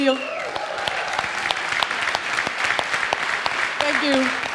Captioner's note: audience cheers and applauds